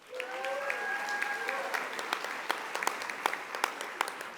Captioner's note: audience applauding